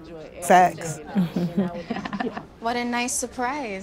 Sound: laughs

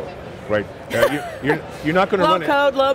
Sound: laughs

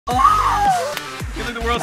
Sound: screaming

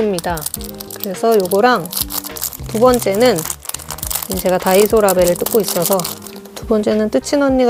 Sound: rustling

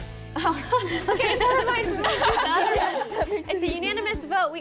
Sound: laughs

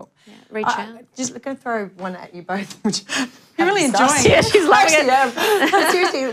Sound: laughter

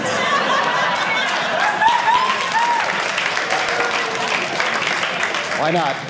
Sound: audience applauding

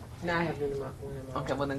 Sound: woman speaking in the background

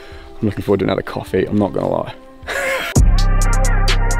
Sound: laughs; trap music plays

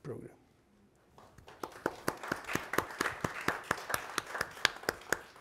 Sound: audience applauding

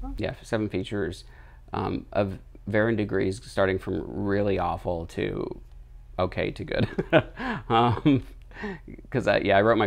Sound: laughs

